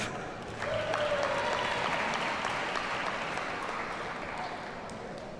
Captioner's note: audience cheers and applauds